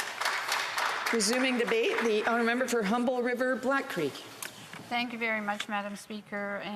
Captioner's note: applause